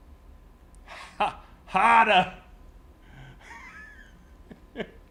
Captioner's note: laugh